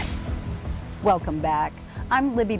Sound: rain falling; thunder booming

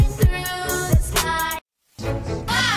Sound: TV Static

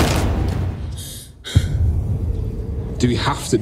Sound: heavy breathing

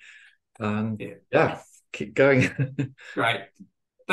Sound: laughs

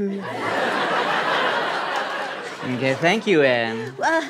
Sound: laughter

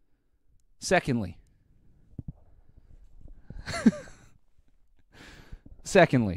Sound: laughs

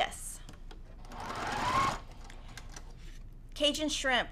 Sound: sewing machine whirling

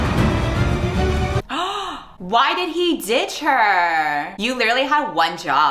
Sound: gasp

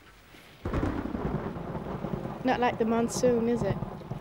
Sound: thunder crashing

